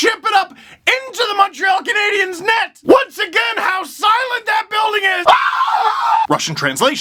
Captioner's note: scream